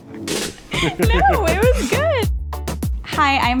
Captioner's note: laughing; chuckling; upbeat music